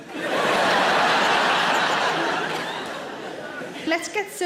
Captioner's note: audience laughs